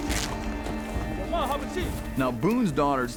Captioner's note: cloth ripping